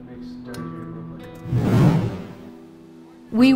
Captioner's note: whoosh